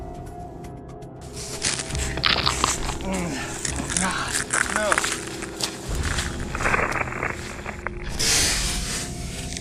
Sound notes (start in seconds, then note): 1.3 cracking branches; 4.2 groaning and grunting